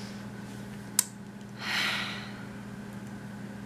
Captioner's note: sigh